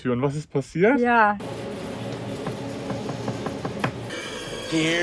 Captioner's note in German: Klopfen